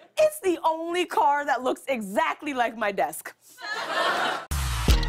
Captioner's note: laughter